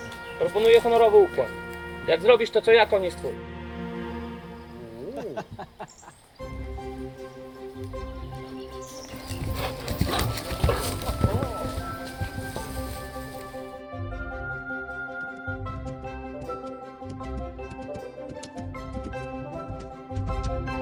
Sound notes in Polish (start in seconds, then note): 5.2 śmiechy i odgłosy zdziwienia; 16.4 coraz głośniejszy odgłos galopu